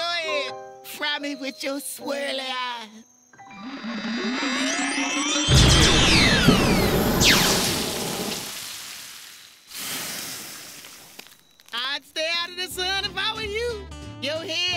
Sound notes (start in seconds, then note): 5.6 exploding; 7.7 simmering; 9.8 sizzling